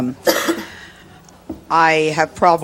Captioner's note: audience member coughing